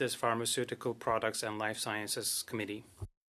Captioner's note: speaking French